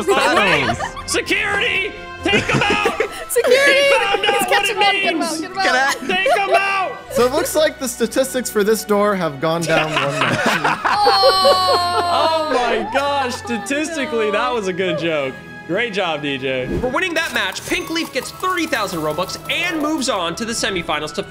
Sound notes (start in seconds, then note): 0.0 laughing; 9.5 people laughing; 17.3 cash register chimes